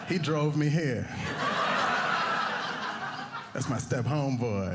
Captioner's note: audience laughing